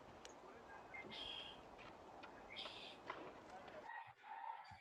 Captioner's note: birds chirping